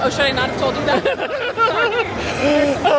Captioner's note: laughing